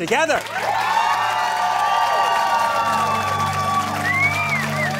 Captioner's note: cheering and applauding